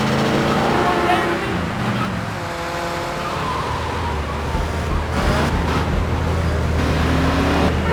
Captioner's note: engine revving